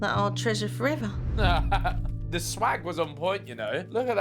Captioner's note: laughing